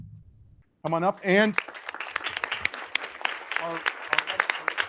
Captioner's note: audience applauding